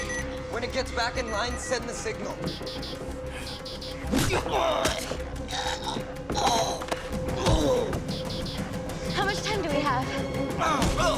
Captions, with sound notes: When it gets back in line, send the signal. (alarm blaring) (choking) How much time do we have?